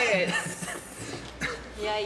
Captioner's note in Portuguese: risos